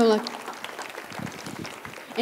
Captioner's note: applause